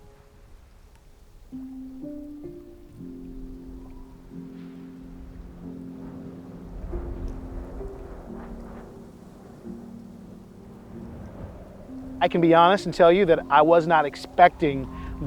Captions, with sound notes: (gentle music) (wind whooshing) I can be honest and tell you that I was not expecting